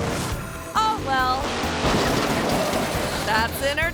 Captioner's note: car clanks